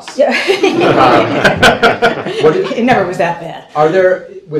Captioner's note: laughter